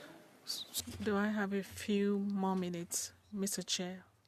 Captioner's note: speaking in French